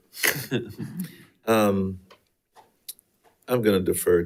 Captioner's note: board laughs